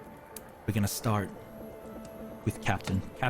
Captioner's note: none